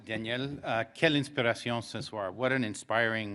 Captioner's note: speaking French